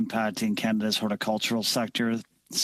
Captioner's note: speaking French